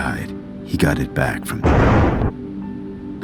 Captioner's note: convenient thunder